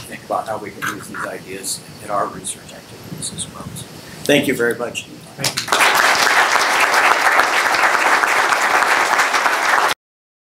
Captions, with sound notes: how we can use these ideas in our research activities as well. So, thank you very much. Thank you. (audience clapping)